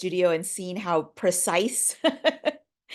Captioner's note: laughing